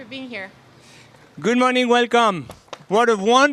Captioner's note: with French accent